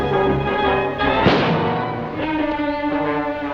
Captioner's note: gunshot